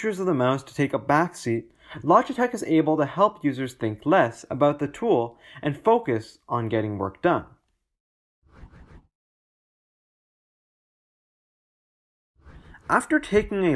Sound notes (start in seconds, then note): 8.1 transition swooshes